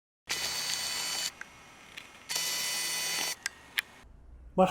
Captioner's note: sound of small gears